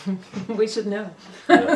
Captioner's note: laughter